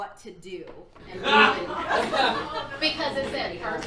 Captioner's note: audience laughing